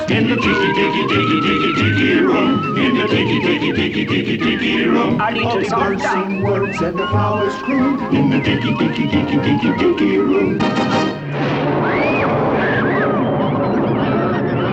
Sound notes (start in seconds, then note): 11.0 thunder rumbling; 12.0 children screaming